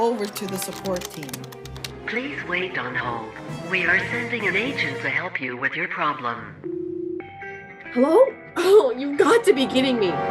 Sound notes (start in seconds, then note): 2.1 phone